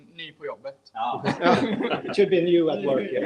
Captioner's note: laughing